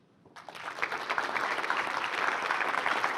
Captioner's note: applause